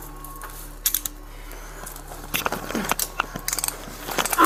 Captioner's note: cuffs click